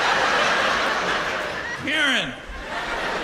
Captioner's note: laughter